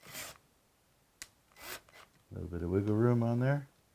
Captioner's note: drilling